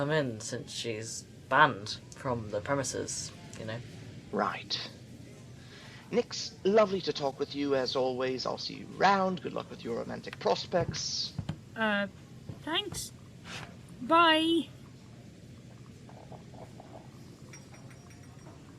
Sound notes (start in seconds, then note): 10.7 receeding footsteps; 17.5 bell above door ringing